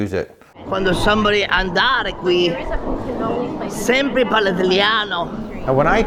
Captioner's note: speaking Italian